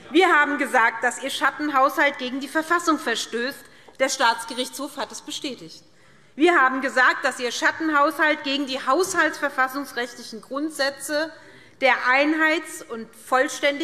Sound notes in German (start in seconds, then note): none